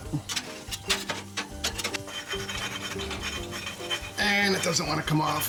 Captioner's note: metal scratches